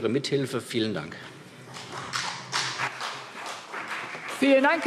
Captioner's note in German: Beifall CDU und BÜNDNIS 90/DIE GRÜNEN